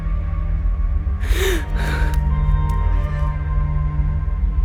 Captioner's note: gasps